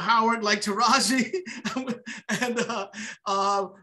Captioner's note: laughs